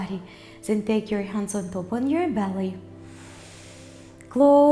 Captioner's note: inhales